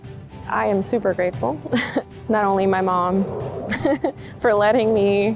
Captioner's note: inspirational music; chuckles